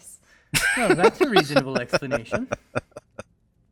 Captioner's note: laughing